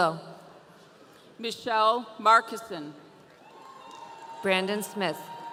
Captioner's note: audience cheering